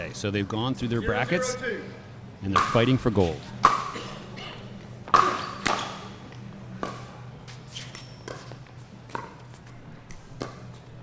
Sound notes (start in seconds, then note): 2.6 shoes squeaking; 5.1 ball being hit